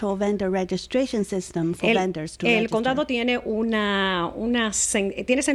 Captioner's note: Hablando ingl\s